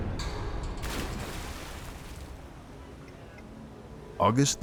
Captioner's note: water splashing